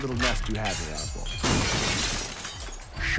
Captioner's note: crashing